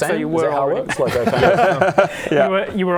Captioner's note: wishful laughter